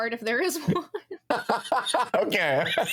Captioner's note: laughing